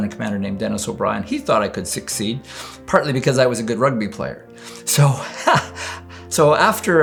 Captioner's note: laughs